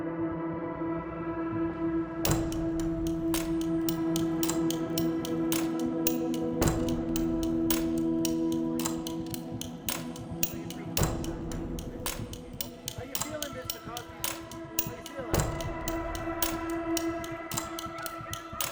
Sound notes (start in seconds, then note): 0.3 tense music; 10.9 muffled chatter